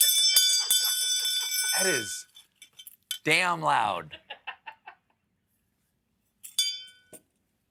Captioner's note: laughter